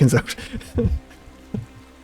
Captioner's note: laughter